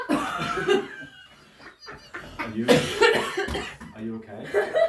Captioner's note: audience laughs